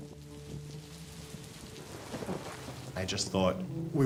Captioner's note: rain pattering; thunder rumbles